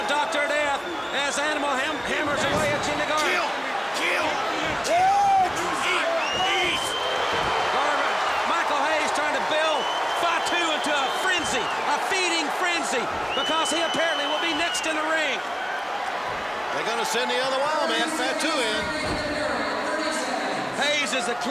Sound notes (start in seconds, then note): 0.0 crowd cheering; 10.4 crowd cheering